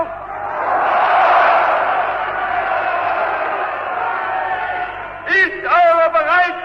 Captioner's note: screams: "Yes!", Applause